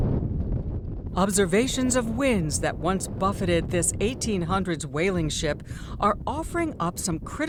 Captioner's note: voice-over